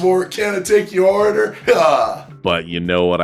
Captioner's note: laughs